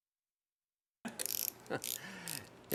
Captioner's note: laughter